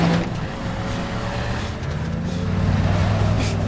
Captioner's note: chaz panting